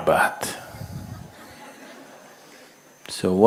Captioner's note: laughter